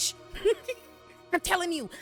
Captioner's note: laughs